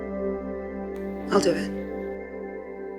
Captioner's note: voiceover